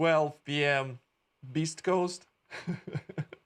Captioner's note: laughing